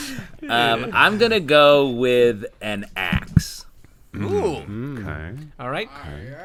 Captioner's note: laughter